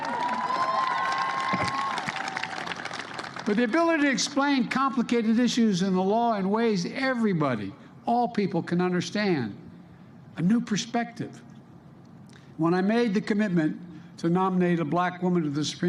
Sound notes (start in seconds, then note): 4.3 applause